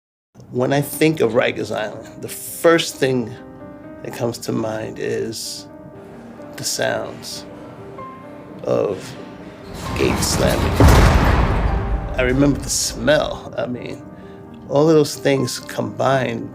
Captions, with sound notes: When I think of Rikers Island, the first thing that comes to mind is the sounds of gates slamming [Gate closes] I remember the smell. I mean, All of those things combine